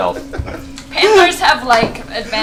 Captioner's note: laughs